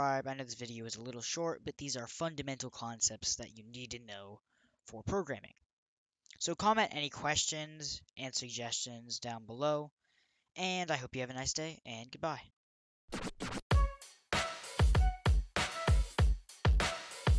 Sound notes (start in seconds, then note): 13.1 record scratches; 14.3 upbeat music playing